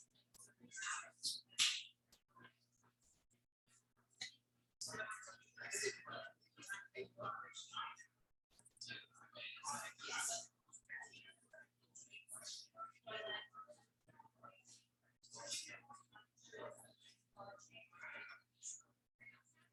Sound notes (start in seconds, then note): 7.5 people chattering indistinctly